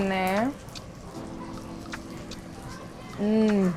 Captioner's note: food sizzling